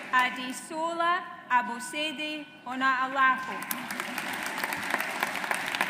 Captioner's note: audience applauds